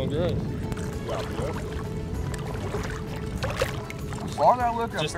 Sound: water splashing

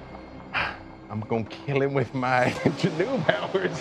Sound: laughs

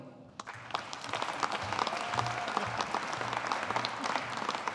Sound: audience applauding

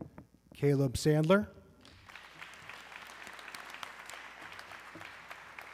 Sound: audience clapping

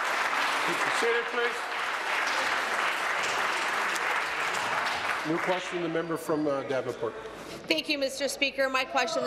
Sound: applause

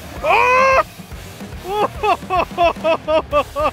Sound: yells and laughs

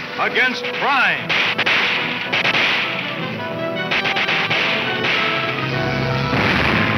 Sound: dramatic orchestra music; guns firing

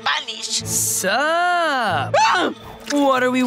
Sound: Rosa gasping

